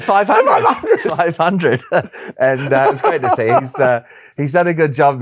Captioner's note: laughs; chuckles